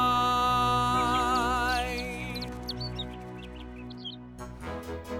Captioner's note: birds chip loudly